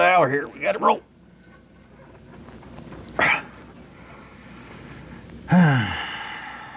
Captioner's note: grunts